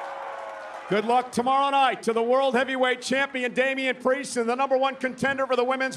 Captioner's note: cheering